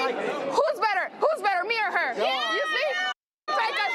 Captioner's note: crowd